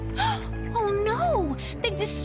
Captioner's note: gasps